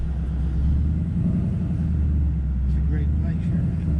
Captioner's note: car engine revving